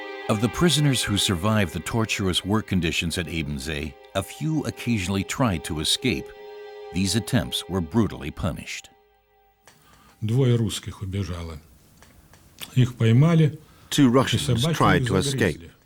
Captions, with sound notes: Out of the prisoners who survived the torturous work conditions at Ebensee, a few occasionally tried to escape. These attempts were brutally punished. [Russian spoken audio] Two Russians tried to escape.